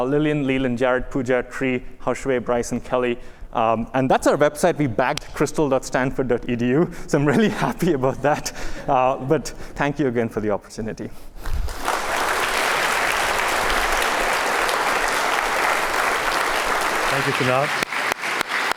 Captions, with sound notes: Lillian, Leland, Jarod, Pooja, Tri, Haoxue, Bryce, and Kelly. And that's our website. We bagged crystal.stanford.edu, so I'm really happy about that. But thank you again for the opportunity. [APPLAUSE] Thank you, Kunal.